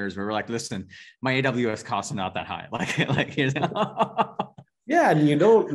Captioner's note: laughing